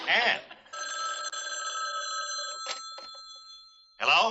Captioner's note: phone ringing